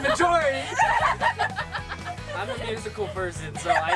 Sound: laughs

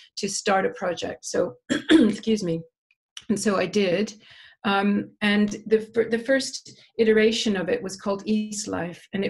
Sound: cough

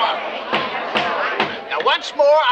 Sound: gavel banging

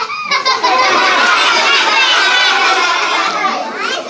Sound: audience laughing

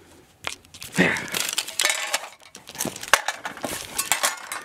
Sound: pieces clanking

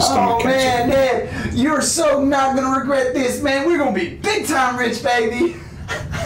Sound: chuckles

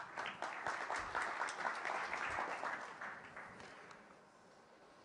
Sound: applause

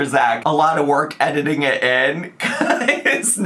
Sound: laughs

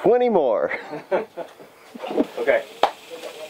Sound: laughing

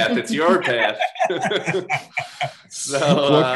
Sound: laughs

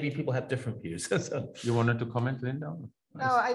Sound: laughs

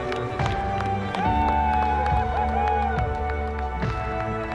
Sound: whoops

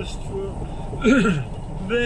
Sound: coughing

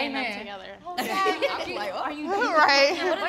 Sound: all laugh

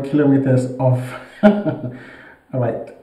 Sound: laughing

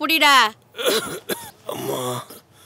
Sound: coughing

